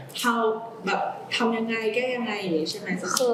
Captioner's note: clarifying in Thai